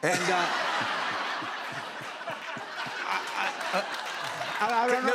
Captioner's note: laughter